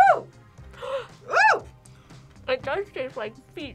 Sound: gasps

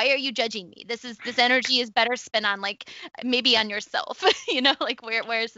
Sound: laughs

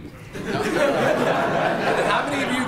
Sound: laughing

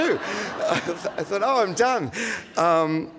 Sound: audience laughing

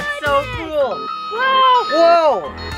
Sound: car horn

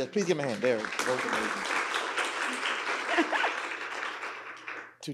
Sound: audience applauding

